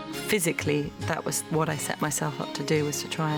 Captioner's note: none